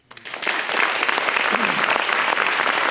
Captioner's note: applause